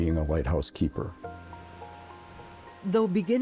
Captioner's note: wind blowing